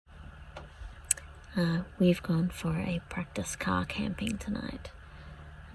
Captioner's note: speaks quietly